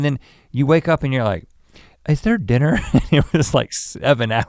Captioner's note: chuckles